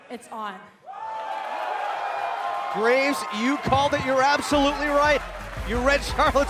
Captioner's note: cheers and applause